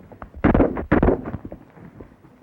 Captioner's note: gunshots